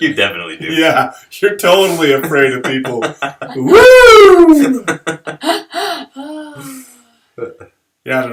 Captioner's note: laughter